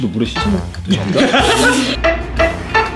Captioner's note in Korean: 웃음소리